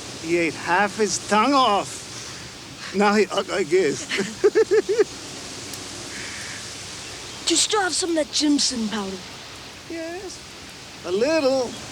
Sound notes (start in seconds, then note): 3.9 giggles